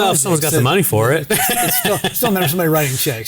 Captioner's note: laughing